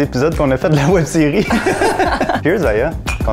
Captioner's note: laughter